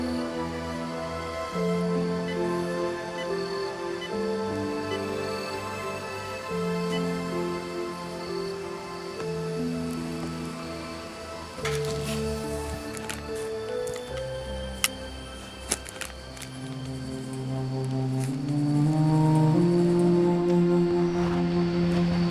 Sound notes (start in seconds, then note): 1.9 phone beeping; 11.6 tender synth music continues; 17.3 pen scratching; 17.3 solemn music